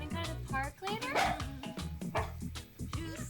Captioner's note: Paxil barks